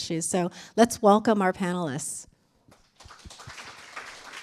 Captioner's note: applause